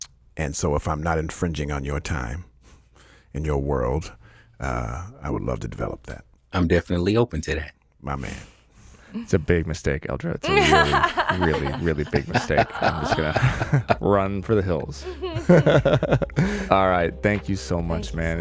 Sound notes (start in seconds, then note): 14.8 panelists laughing